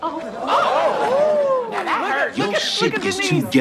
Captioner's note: crowd exclaims